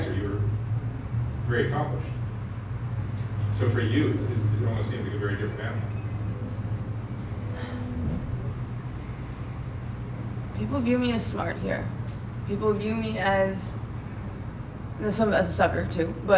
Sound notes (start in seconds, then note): 7.4 sighs